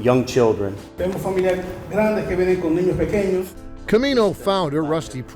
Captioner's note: interpreter speaking in Spanish